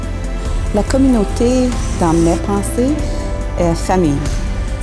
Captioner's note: woman speaks in French